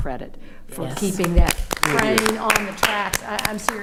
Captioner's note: attendees applauding